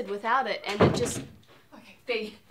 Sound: door opens, closes

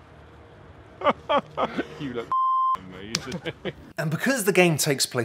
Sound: laughing; sobs

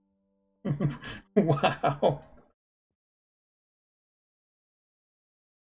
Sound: laughs

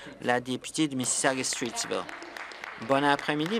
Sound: some Applause

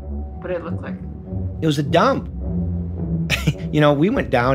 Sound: laughs

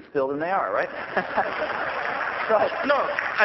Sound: laughter

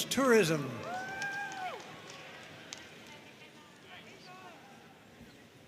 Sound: audience cheering and applauding

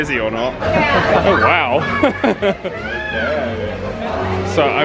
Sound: laughs

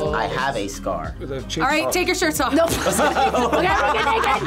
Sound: laughs

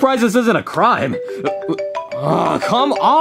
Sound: phone ringing

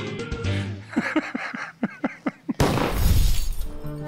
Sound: funky music plays; gunshot; laughs

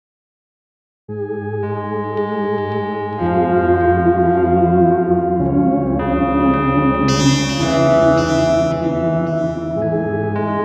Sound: sound of paranormal

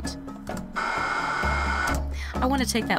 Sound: blower noise

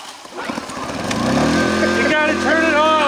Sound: engine runs

